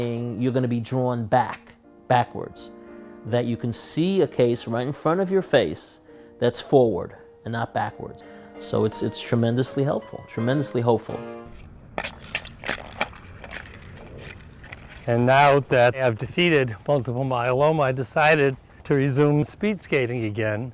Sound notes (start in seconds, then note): 12.0 ice skates grinding